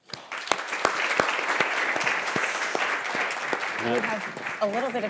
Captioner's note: audience applauding